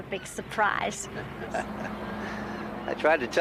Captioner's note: chuckling